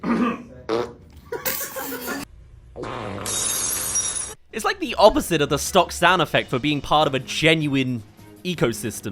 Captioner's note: cough coverups